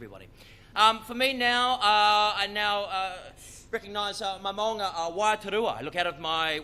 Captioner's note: speaks foreign language